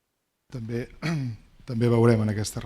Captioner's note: speaking spanish